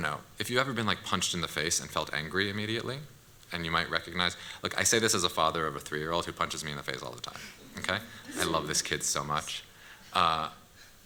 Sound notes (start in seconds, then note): 8.0 laughter